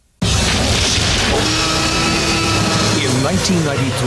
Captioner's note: car engine roars; dinosaur roars